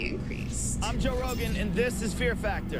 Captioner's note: soundbite of tv show, "fear factor"